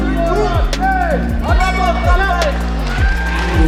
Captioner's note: bell